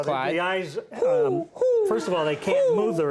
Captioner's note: Conan 'hoos'